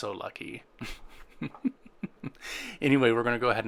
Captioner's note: laughing